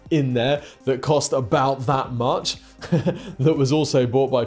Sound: chuckles

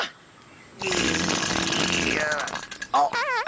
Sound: farts; lawnmower Sounds

